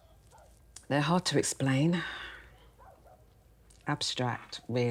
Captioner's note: dogs barking